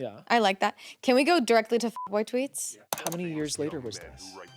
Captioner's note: beep